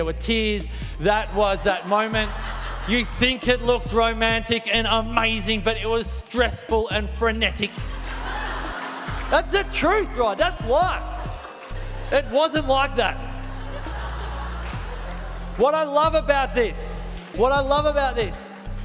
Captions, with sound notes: there were tears. That was that moment. You think it looks romantic and amazing but it was stressful and frenetic. (crowd laughing) That's the truth right! That's life! It wasn't like that. (crowd laughing) What I love about this, what I love about this